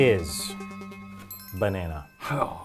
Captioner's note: electronic chime